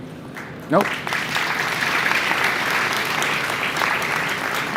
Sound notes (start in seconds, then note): 0.3 audience applauds